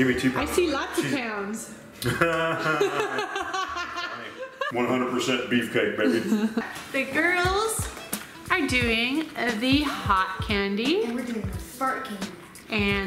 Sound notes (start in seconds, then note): 2.0 laugh